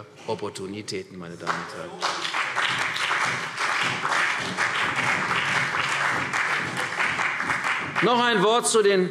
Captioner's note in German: Beifall CDU, BÜNDNIS 90/DIE GRÜNEN und vereinzelt Freie Demokraten